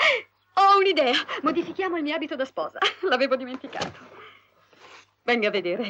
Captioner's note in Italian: sbuffare